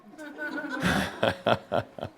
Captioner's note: chuckles